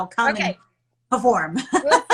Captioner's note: chuckles